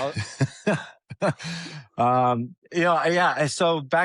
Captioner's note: laughter